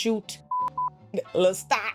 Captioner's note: beep